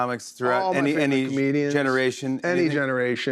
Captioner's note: none